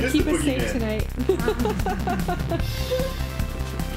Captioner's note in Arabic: ضحك